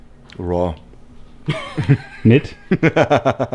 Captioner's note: laughs